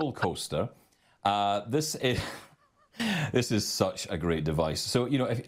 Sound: laughs

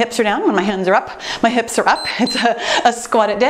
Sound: timer beeps

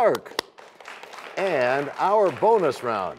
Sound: applause

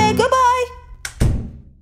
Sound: door closes

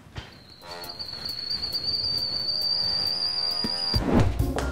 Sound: pot Boiling

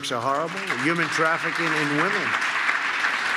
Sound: applause

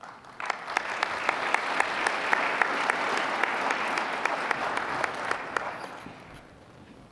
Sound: applause

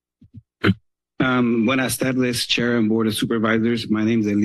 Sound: foreign language

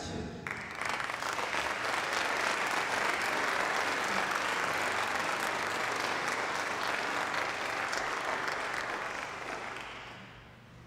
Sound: applause

